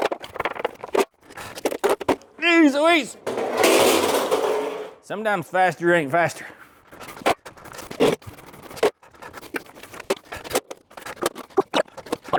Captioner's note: metal Clanging